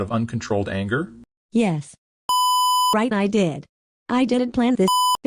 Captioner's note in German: Piep